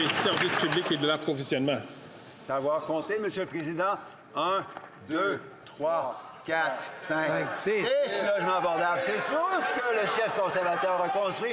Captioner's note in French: applaudissements